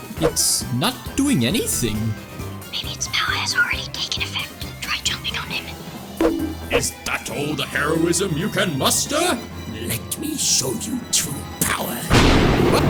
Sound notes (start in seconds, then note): 6.2 bonk